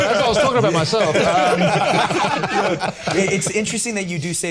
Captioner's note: all laughing